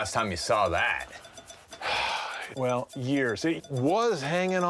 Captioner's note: sighs